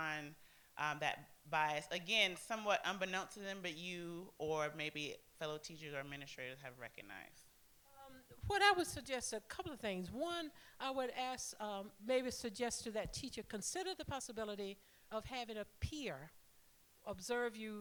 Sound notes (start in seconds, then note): none